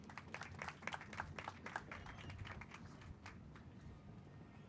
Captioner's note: crowd applauding